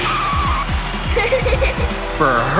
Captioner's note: giggling